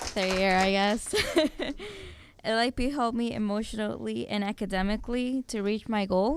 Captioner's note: applause